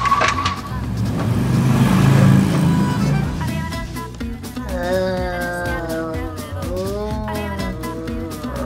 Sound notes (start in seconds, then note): 0.0 vehicles whirring; 3.6 lively pop music; 4.7 all groaning